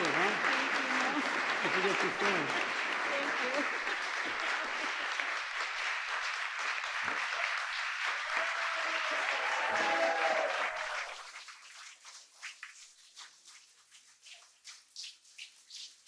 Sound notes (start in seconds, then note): 3.3 applause